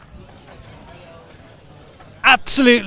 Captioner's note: metal rotating